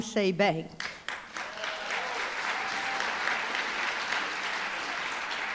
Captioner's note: applause, cheering